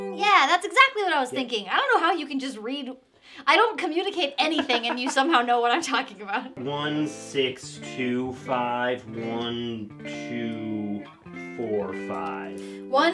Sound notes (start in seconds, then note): 4.3 laughing